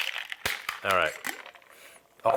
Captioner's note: sniffs